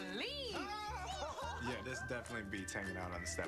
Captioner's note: laughter